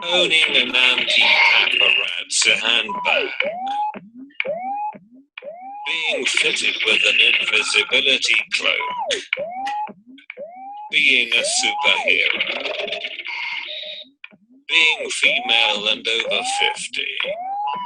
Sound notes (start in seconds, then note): 4.7 electronic noises; 9.8 electronic noises; 13.9 electronic noises; 17.7 electronic noises